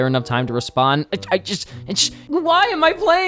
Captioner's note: stammers